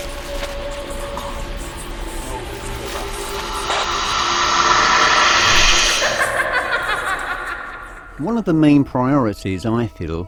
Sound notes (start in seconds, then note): 6.3 woman laughing